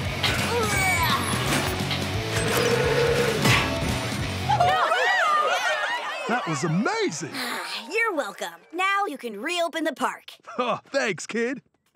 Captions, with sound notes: [straining] [cheering] That was amazing! You're welcome. Now you can reopen the park. Oh, thanks, kid.